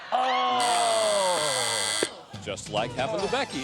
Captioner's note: buzzing